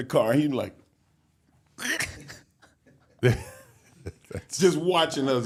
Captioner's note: laughs